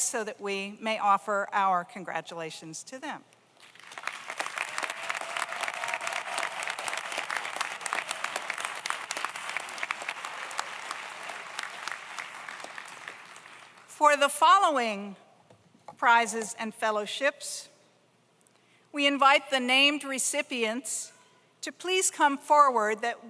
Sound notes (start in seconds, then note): 3.6 audience applauds; 3.9 audience cheers